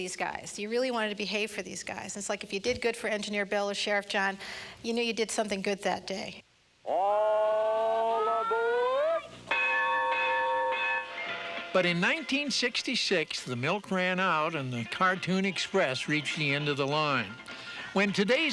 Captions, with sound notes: GOOD FOR THESE GUYS. YOU REALLY WANTED TO BEHAVE FOR THESE GUYS. IT'S LIKE IF YOU DID GOOD FOR ENGINEER BILL OR SHERIFF JOHN, YOU KNEW YOU DID SOMETHING GOOD THAT DAY. >> ALL ABOARD! [BELL DINGS] >> BUT IN 1966, THE MILK RAN OUT AND THE CARTOON EXPR REACHED THE END OF THE LINE. WHEN